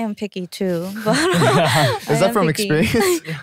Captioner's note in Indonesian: tertawa